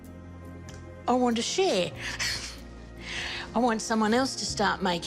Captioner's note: laughs